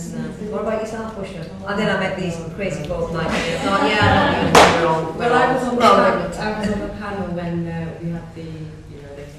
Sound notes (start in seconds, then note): 1.3 laughter